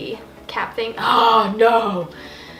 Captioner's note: gasps